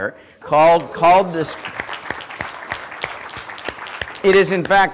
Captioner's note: applause